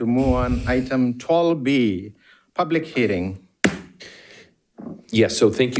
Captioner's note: hammer slamming